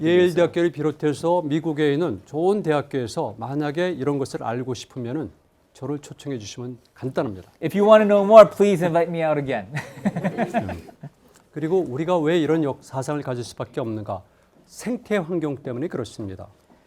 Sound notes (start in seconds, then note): 0.3 speaking in Korean; 9.7 laughs; 9.7 students laughing; 11.9 speaking in Korean